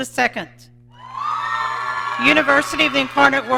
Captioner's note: audience cheering